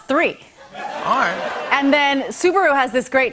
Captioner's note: laughter